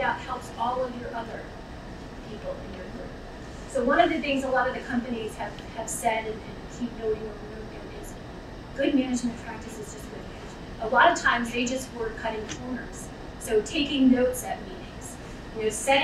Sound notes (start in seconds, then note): 9.6 speaking away from mic